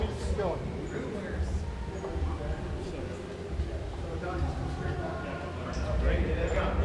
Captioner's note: group chattering